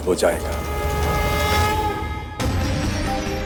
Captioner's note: conch blows